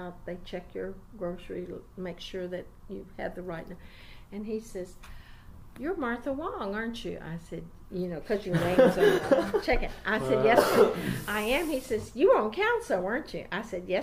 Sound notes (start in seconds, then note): 8.5 laughs